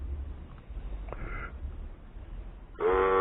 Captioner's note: blowing